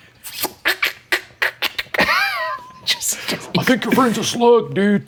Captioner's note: both laughing